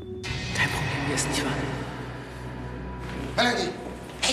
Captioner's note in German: Stimme hallt